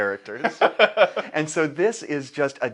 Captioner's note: laughs